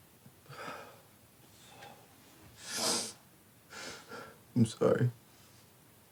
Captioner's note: Lance exhales and sniffs